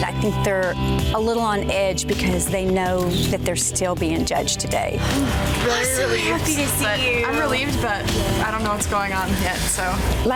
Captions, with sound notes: I think they're a little on edge because they know that they're still being judged today. - (exhales) I'm so happy to see you. - I'm relieved, but I don't know what's going on yet, so.